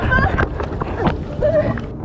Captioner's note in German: Aufgeregte Laute